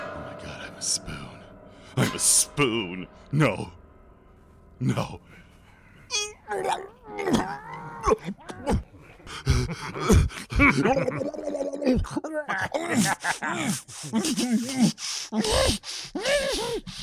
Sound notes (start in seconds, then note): 5.4 Magnar gargles; 9.2 Gor laughs derisively; 12.4 Gor only continues to laugh